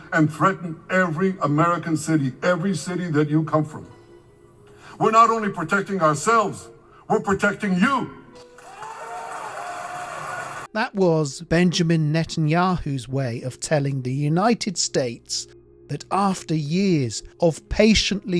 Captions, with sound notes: and threaten every American city, (Speaking in a foreign language) every city that you come from, (Speaking in a foreign language) we're not only protecting ourselves, we're protecting you. [Clapping] - That was Benjamin Netanyahu's way of telling the United States that after years of patiently